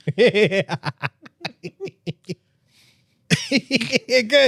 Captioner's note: laughing